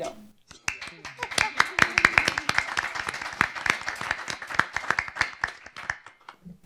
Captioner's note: applause